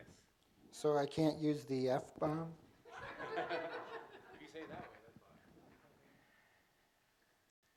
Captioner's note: laughter